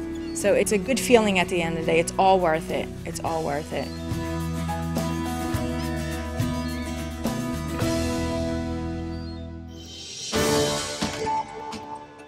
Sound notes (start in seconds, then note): 4.8 seagulls call